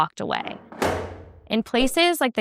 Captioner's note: clank